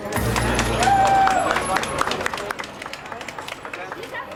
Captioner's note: crowd cheering